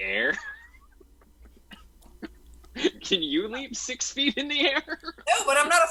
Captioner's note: laughs